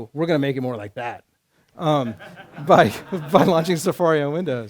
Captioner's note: laughter